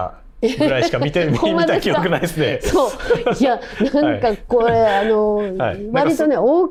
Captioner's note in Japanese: 笑い